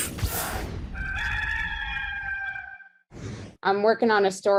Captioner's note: rooster crowing